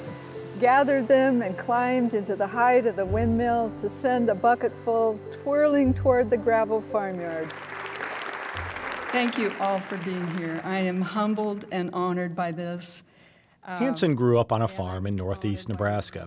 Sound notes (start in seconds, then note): 7.2 applause